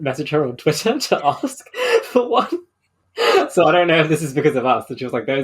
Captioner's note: laughing